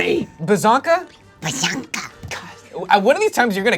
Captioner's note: screeches